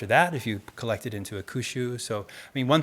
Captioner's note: speaking in Japanese